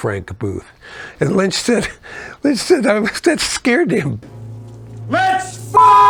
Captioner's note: beep